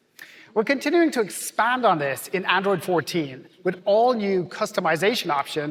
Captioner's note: none